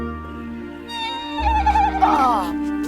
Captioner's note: Little Baa cries